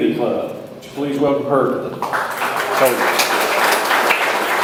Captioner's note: audience applauds